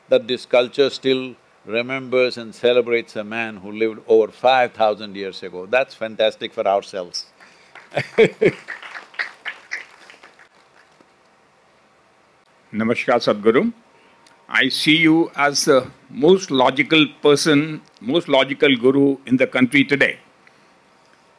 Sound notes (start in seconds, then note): 7.4 applause; 7.7 laughs